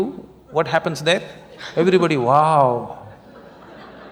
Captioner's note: laughter